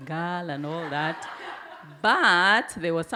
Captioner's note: audience laugh